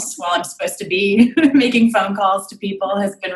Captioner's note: giggles